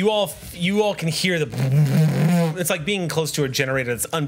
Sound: roaring noises

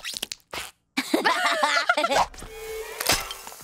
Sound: laughing

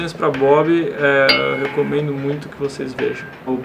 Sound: ding!

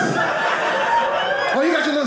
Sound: audience laughing

